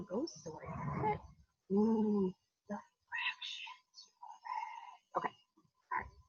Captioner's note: whispers